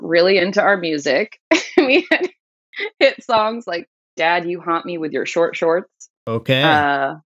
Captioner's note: laughter